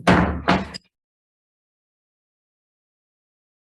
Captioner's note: gavel bangs